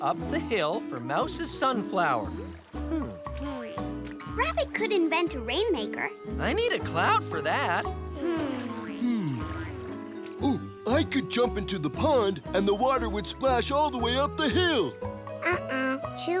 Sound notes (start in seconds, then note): 8.1 "hmm" as they think